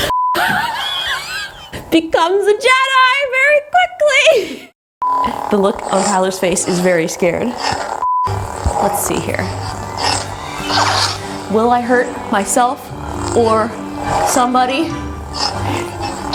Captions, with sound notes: (beep) (laughs) Becomes a Jedi very quickly! (beep) The look on Tyler's face is very scared. (beep) Let's see here. Will I hurt myself or somebody?